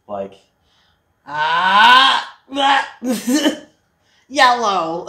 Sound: scream

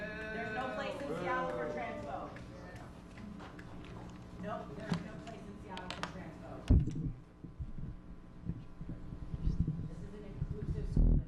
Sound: crowd booing previous speaker, indistinct crowd grumbling

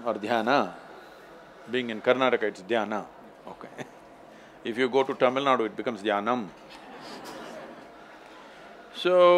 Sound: few laugh; laughs

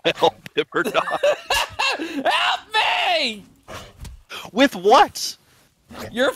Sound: screaming

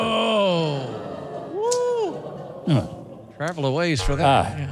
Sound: audience groans

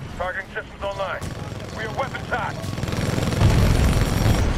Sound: radio

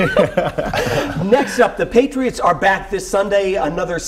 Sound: laughter

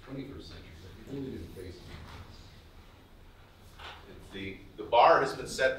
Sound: speaking faintly

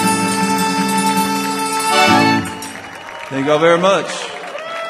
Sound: audience applauding

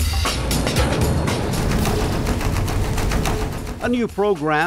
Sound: boat engine whirring

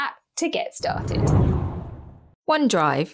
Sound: air whooshes

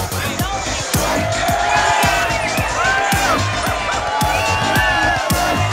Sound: crowd cheering

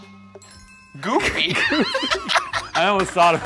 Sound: laughs

